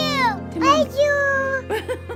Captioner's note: laughing